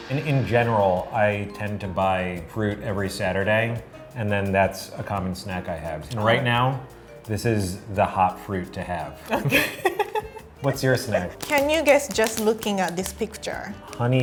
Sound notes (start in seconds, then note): 9.4 laughing